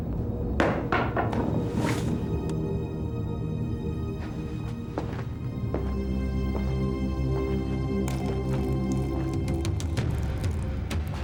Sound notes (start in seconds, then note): 0.8 bat clatters; 3.4 ominous music continues